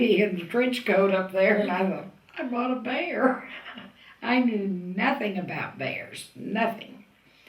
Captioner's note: laughs